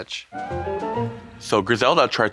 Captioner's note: bright chime